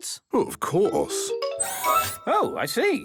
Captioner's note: mechanical arm whirring